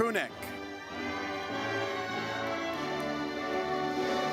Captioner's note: audience cheers